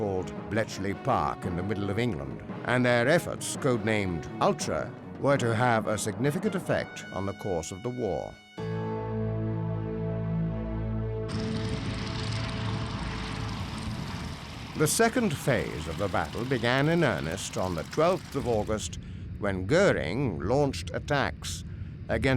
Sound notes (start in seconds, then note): 11.2 engine revving